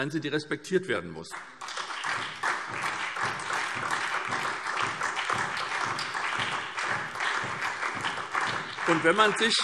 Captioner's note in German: Beifall SPD, BÜNDNIS 90/DIE GRÜNEN und DIE LINKE